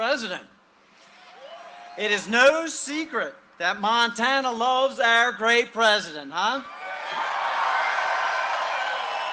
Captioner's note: cheering and applause